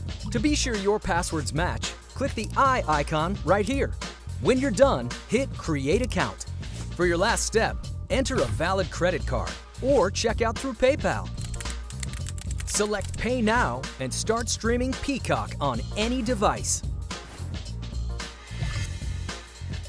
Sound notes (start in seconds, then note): 0.0 upbeat music; 11.5 keyboard clacking; 17.1 upbeat music